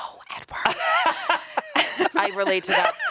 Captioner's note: laughs